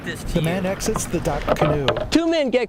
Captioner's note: oar hits canoe